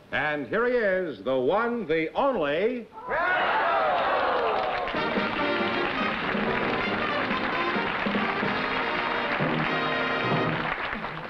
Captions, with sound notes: And here he is, the one, the only-- [CROWD SHOUTING "GROUCHO!"] [APPLAUSE AND MUSIC PLAYING]